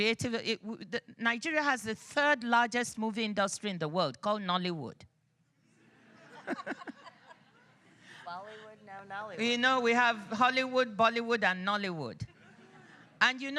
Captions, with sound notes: Nigeria has the third largest movie industry in the world called Nollywood. (laughs) You know, we have Hollywood, Bollywood, and Nollywood.